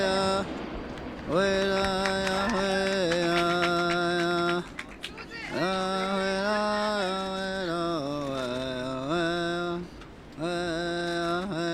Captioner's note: chanting